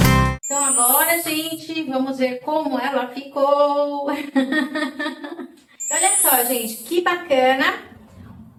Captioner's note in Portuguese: risadas